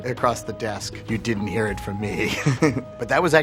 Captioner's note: laughing